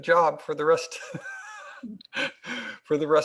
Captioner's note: laughs